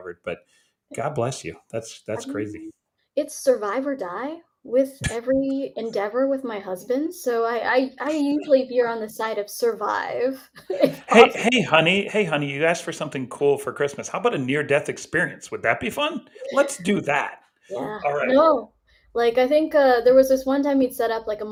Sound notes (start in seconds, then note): 10.6 chuckles